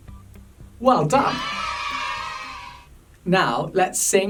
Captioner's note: cheers